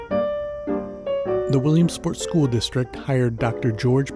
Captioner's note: voiceover